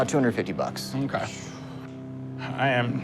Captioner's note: exhales